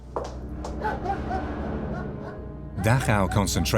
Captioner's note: dog barks